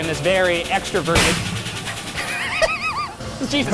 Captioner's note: something thudding; laughing